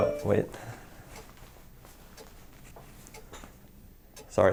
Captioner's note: cell phone rings